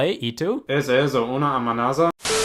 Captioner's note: goes Spanish